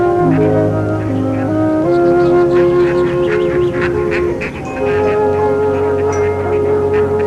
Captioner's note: ducks quacking; soft music